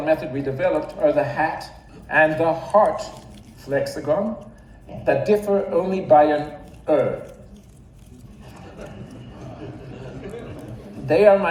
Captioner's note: audience laughs